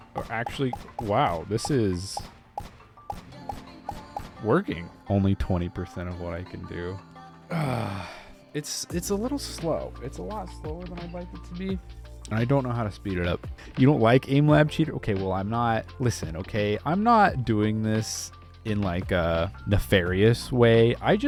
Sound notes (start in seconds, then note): 7.6 exlaims